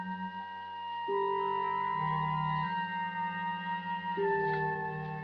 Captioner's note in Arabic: none